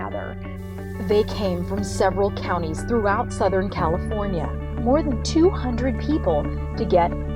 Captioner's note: voiceover